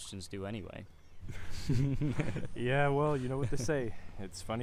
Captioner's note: laughing